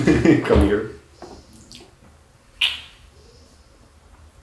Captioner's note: smooching noises